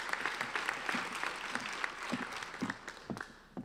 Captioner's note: applauding